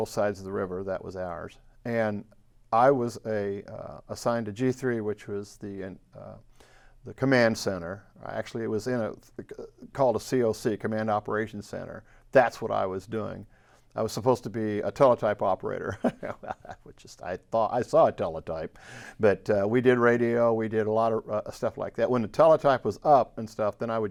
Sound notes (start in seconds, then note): 15.9 laughs